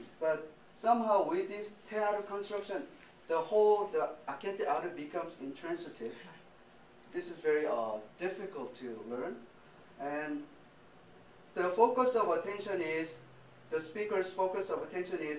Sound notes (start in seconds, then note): 1.3 speaking japanese; 3.5 speaking japanese